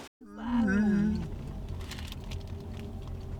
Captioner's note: yawning